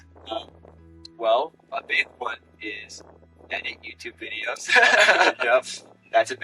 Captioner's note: laughs